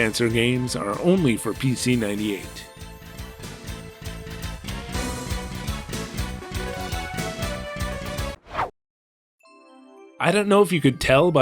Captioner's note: whoosh